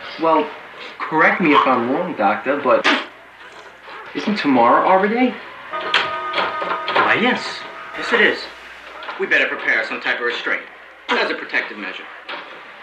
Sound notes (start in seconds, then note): 5.5 dramatic bells